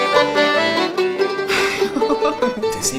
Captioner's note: laughs